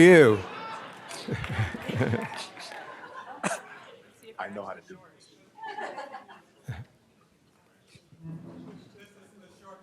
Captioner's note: laughter